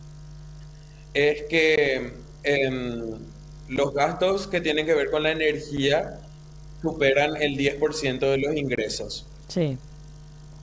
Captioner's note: electricity